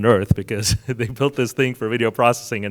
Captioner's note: chuckles